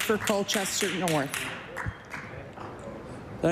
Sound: applause

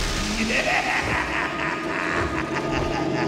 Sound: laughing

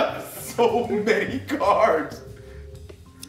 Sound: laugh

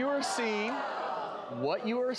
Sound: audience members gasping

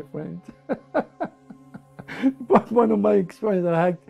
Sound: lacht

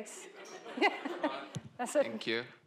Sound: laughter

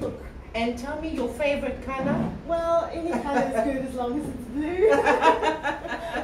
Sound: laughing

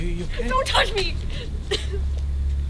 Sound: coughs

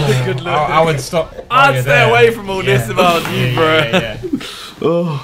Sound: students murmurs

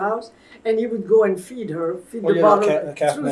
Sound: laughs

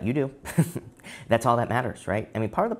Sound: chuckles

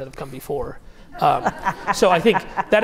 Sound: audience laughs

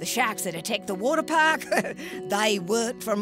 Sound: chuckling

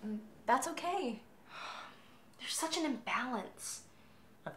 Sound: sigh

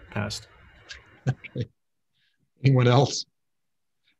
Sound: chuckles

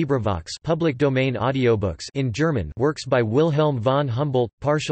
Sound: in German

